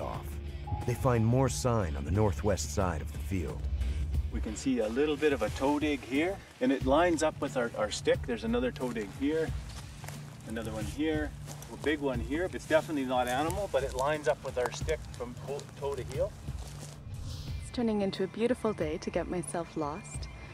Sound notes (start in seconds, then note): 11.2 voiceover